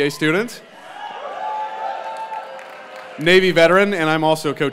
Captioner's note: applause